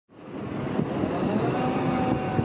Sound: truck sounds

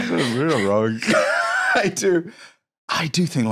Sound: laughs

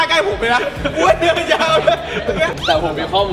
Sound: laughs

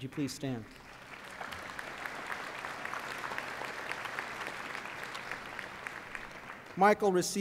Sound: applause

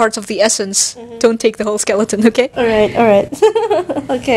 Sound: hehehehehe

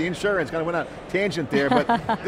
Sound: chuckles

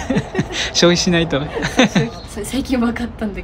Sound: laughs

